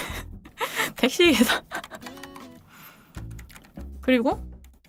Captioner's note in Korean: 웃음